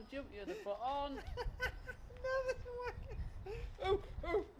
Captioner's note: laughter